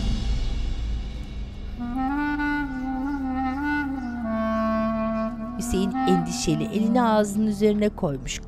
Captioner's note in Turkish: Müzik - Hüzünlü; Kuş cıvıltısı sesleri